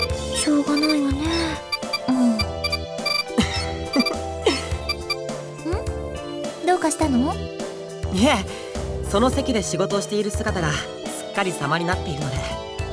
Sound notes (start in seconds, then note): 0.3 sigh; 4.4 chuckle